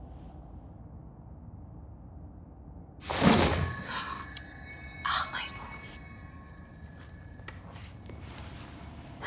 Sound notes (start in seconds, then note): 4.4 gasps